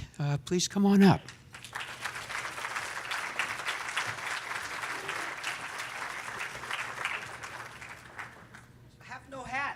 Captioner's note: applause